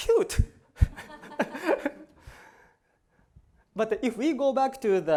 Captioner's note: laughter